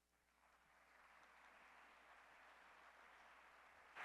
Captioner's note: applause